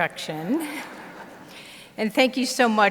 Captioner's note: audience laughs